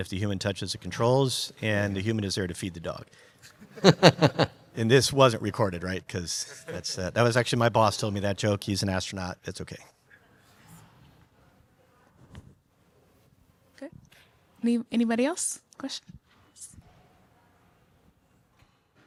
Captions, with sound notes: if the human touches the controls and the human is there to feed the dog. (audience laughs) And this wasn't recorded, right? 'Cause that's, that was actually my boss told me that joke. He's an astronaut, that's okay. - Okay, anybody else question?